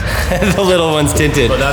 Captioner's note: laughs